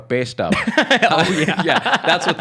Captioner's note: laughing